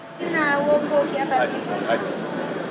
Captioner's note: in foreign language